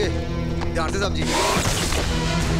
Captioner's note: Gunshot